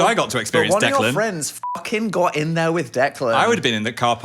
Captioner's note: beep